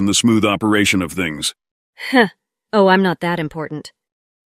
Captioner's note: chuckles